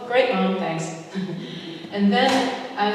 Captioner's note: chuckles